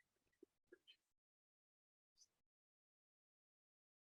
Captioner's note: silence